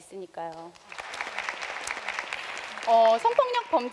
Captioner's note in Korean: 박수